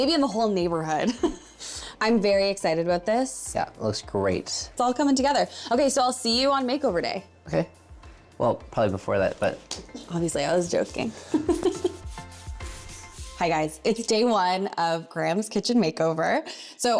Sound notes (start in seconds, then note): 11.3 chuckles